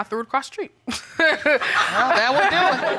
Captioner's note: audience laughs; laughs